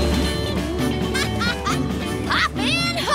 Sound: laughing

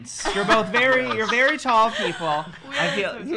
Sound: laughs

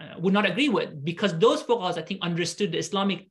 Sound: speaking arabic

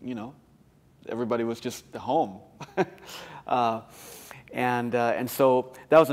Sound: laughter

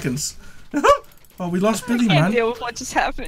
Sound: laughs

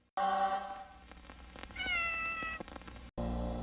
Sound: Mimsie mewing

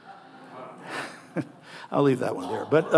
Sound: audience laughing

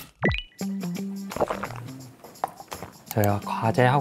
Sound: sip

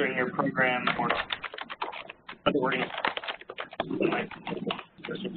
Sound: loud clacking noises

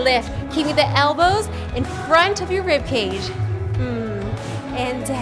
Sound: moans

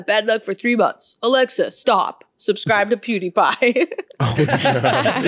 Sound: laughing; laughs

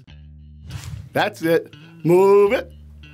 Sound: swooshing

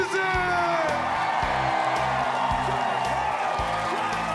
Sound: cheering

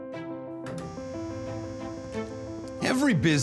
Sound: electric buzz

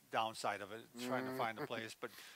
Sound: chuckles

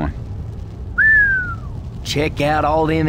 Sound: whistles

